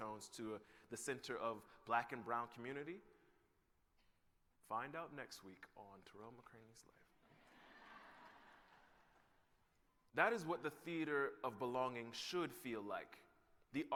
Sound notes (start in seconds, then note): 7.2 laughter